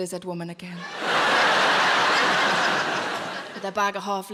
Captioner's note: audience laughing